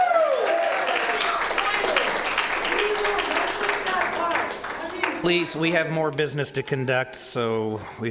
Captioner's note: cheers and applause